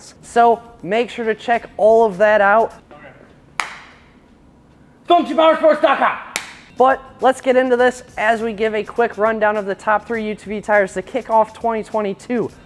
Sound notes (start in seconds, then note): 3.6 claps; 6.3 claps